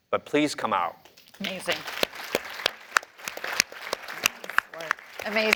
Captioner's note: applause